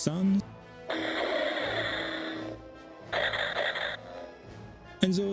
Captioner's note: Lightsaber sound